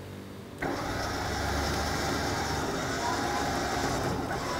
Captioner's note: engine whirring